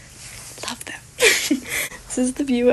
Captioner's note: laughs